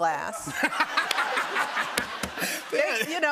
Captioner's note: laughter